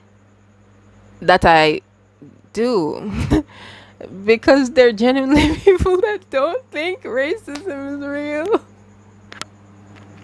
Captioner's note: laughs